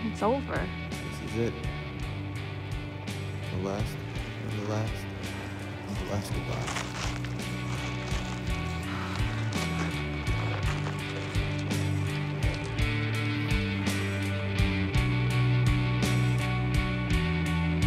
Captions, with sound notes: It's over. - This is it. (somber music) The last, the last, the last goodbye. (footsteps crunching) (somber music)